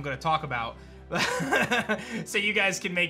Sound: laughs

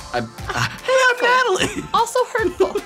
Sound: in deep voice; in high voice

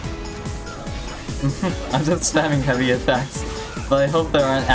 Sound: chuckles

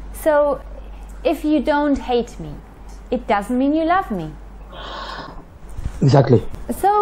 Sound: none

